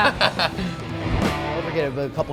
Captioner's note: laughing